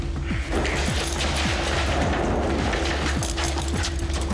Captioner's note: fast footsteps - metallic door